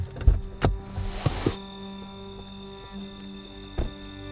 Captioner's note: door clicks